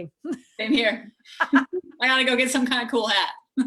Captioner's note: laughs